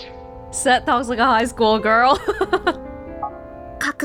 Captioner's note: chuckles